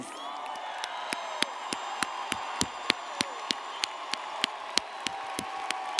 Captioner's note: audience cheers and applauds